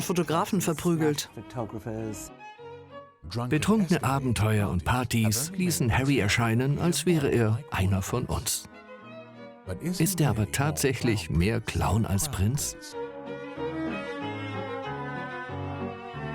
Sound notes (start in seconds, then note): 2.8 voiceover; 12.4 upbeat music